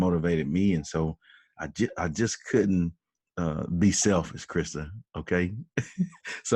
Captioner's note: laughs